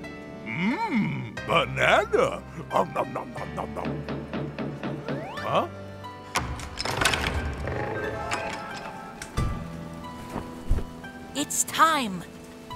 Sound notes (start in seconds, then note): 4.0 knock knock knock